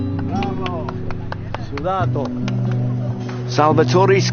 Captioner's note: chattering in italian